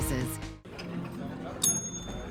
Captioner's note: ding